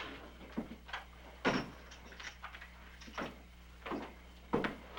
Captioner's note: none